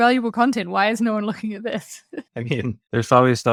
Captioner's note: laughs